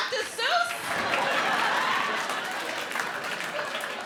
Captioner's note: audience laughs